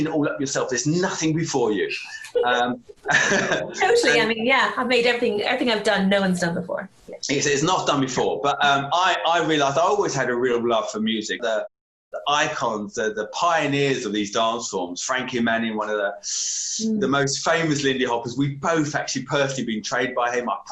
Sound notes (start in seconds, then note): 3.0 laughter